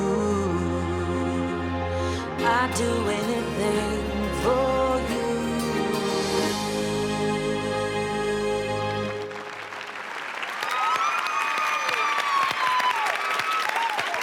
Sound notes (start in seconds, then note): 7.1 cheering